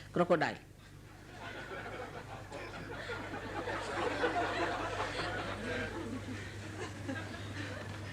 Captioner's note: laughter